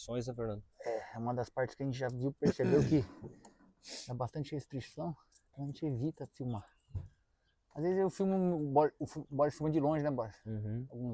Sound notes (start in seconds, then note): 5.1 clearing throat